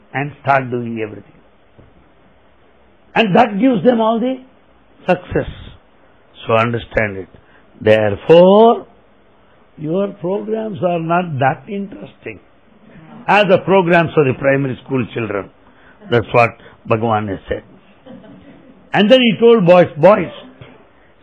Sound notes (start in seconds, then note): 17.9 laughter